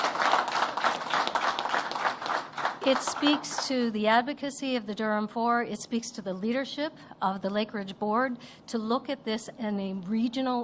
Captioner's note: applause